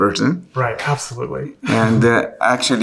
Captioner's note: chuckles